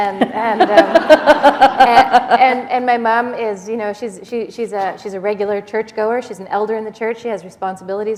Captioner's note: laughter